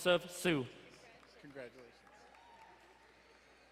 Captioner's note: distant cheering